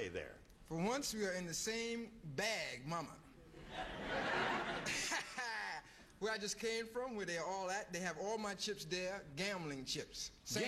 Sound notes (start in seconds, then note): 3.6 laughter